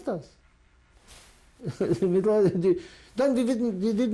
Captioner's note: laughs